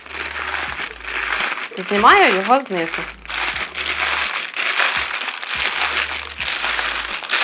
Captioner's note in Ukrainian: оплески